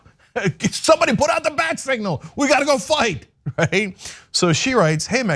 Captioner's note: laugh